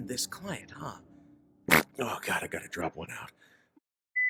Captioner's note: mouth fart